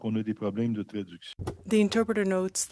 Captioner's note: speaking french